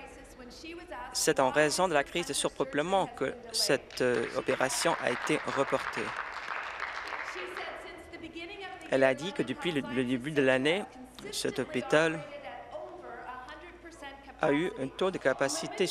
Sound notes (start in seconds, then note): 7.7 applause